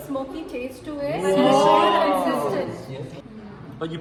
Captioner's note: exclaims